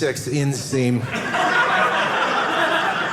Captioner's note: audience laughing